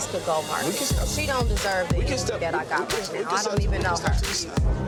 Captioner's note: overlapping chatter